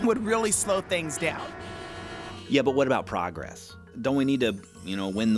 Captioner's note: cacophony of car horns